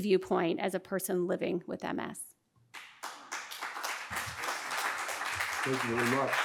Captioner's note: applause